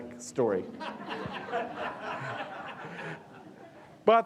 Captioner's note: audience laughing